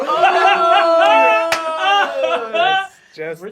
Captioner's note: shouts of dismay